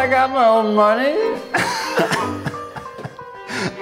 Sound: laughing

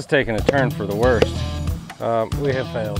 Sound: hammer thuds

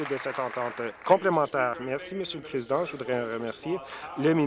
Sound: applause

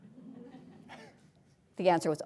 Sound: audience chuckling

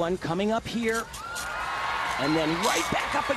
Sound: audience cheering

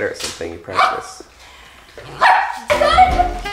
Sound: barks affirmatively

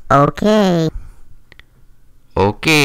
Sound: mouth noise

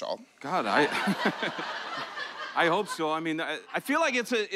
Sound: laughter

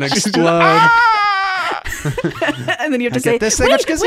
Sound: screaming

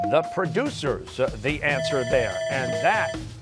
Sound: bell ringing

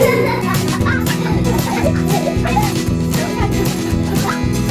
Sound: lively instrumental music; children laughing

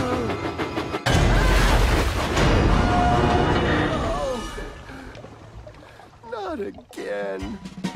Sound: James Gasps; James Sighs

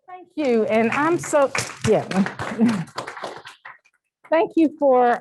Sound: applause

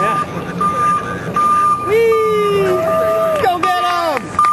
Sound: clapping

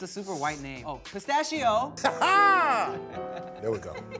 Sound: laughs

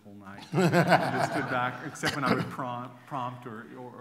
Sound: laughter

